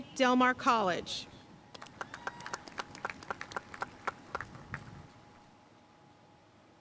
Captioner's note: audience cheering and applauding